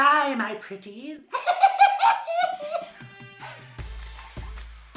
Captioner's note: cackles; upbeat music